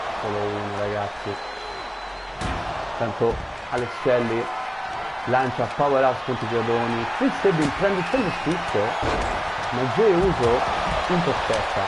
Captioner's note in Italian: Applauso